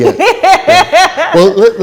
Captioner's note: laughs